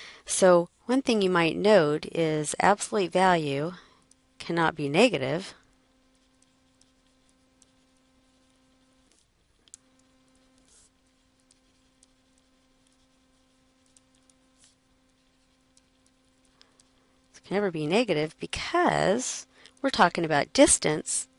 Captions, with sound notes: So one thing you might note is absolute value cannot be negative. [silence] It can never be negative because we're talking about distance